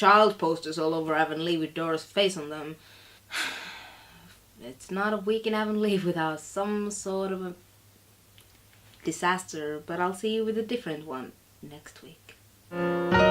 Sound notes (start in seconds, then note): 3.3 sigh